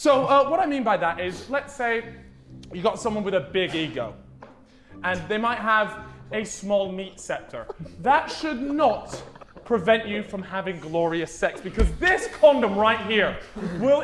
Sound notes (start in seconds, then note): 7.4 Sidemen laughing